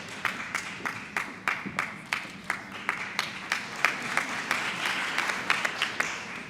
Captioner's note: applause